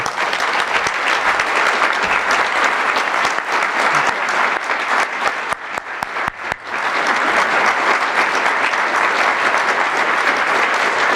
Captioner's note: applause